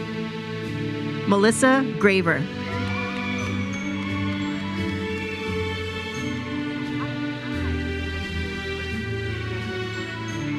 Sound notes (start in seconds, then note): 2.5 audience cheers and applauds